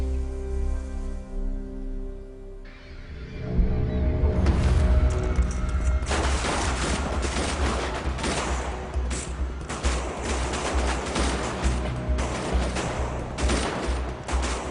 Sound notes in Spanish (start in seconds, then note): 6.3 Disparos; 10.9 Disparos